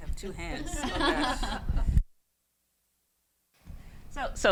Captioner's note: all laugh